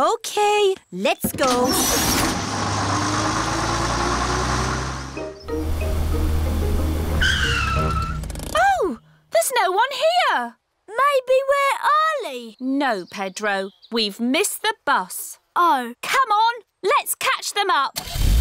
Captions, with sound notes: OK, let's go. (TIRES SCREECH) Oh, there's no-one here. Maybe we're early. No, Pedro, we've missed the bus. -Oh. -Come on. Let's catch them up!